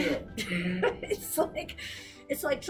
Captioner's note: laughs